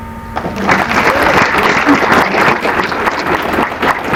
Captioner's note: applause